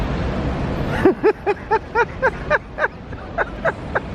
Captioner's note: laughing!